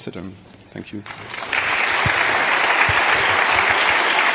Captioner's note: applause